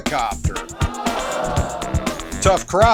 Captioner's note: crowd groans